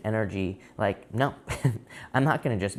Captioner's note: chuckles